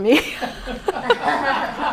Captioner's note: laughs; laughter